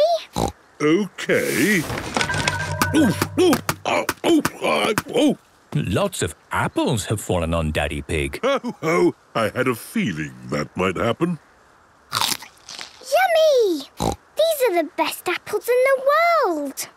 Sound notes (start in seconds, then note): 0.1 snorting; 12.1 crunch!; 13.2 snorting